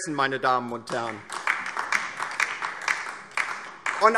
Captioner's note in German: Beifall DIE LINKE